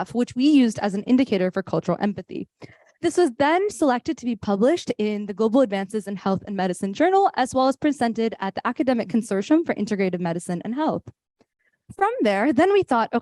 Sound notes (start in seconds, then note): none